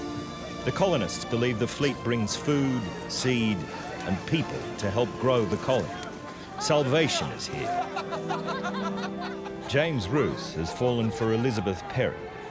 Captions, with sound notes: The colonists believes the fleet brings food, seed and people to help grow the colony. Salvation is here. [both laughing] James Ruse has fallen for Elizabeth Perry,